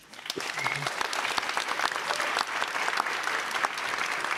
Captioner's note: audience applauding